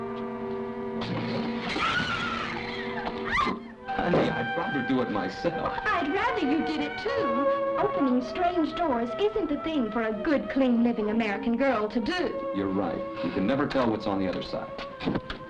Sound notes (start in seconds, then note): 1.6 screaming